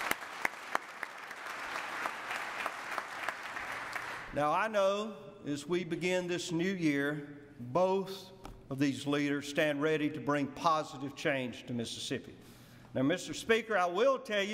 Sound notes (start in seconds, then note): 2.1 applause